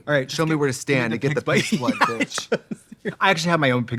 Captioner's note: laughing